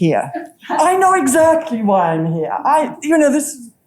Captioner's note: laughing